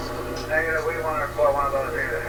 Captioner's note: man on Radio